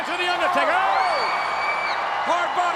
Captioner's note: audience cheers